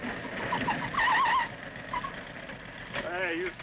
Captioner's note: tires screeching